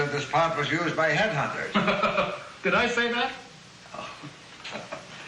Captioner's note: laughs